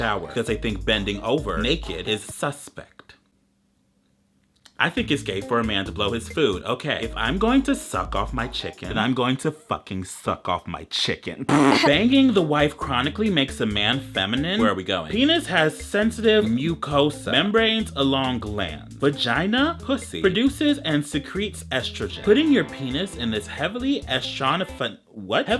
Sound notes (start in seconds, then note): 11.6 laughs